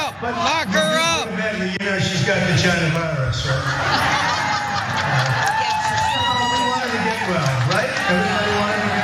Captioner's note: laugh; applause